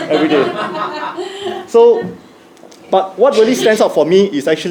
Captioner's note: laugh